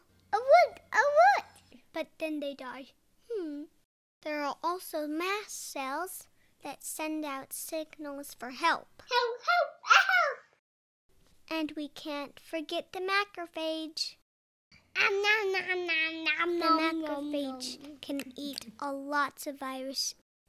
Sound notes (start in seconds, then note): 9.2 help! help! help!